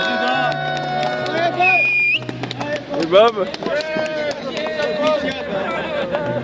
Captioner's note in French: Applaudissements